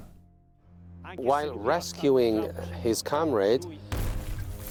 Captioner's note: voiceover